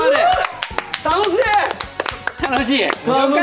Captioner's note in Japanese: 拍手